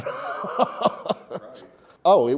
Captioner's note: laughs